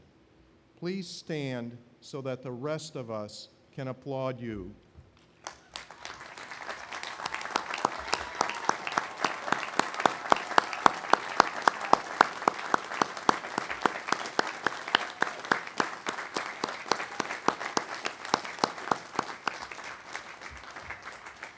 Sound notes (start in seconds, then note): 7.3 audience applauding